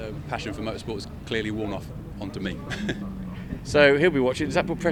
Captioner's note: laughs